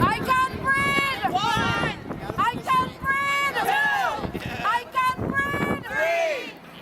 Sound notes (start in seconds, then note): 0.0 crowd voices